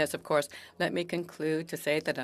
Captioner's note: speaking French